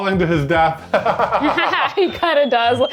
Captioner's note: both laughing